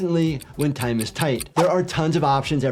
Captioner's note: clock ticking